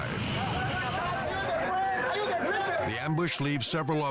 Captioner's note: officers shouting